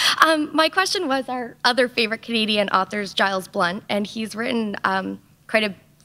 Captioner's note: chuckle